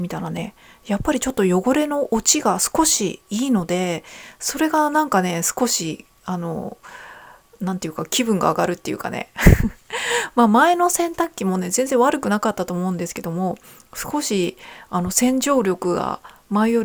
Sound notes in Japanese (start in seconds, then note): 9.4 笑い